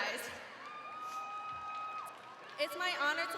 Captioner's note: crowd cheering